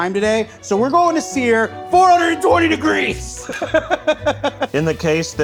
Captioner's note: laughing